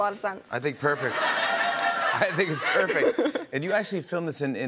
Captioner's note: laughter